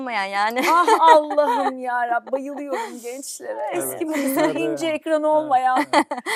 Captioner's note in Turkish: kahkaha; kahkaha